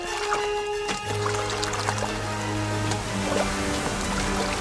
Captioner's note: mantle shuffling; water splashing; ocean roars